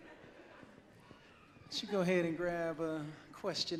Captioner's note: audience laughs